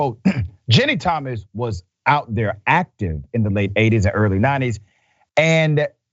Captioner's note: cough